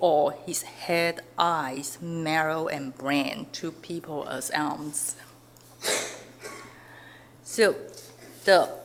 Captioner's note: audience member coughs